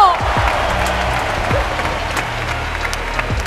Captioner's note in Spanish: Aplausos